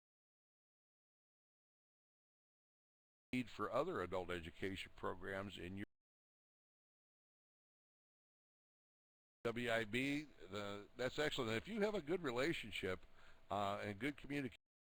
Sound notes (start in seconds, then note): 0.0 audio drops; 14.6 audio drops